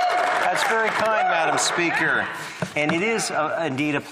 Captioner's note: applause